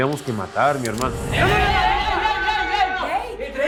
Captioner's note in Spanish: Gritos